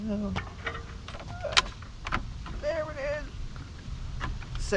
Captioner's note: metal squeaking